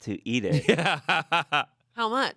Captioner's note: laughs